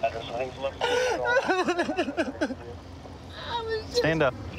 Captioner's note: crying